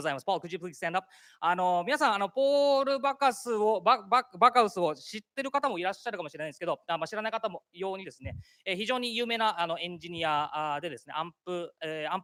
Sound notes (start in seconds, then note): 0.0 speaking japanese; 1.6 speaking japanese; 12.0 speaking japanese